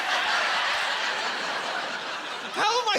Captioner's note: laughing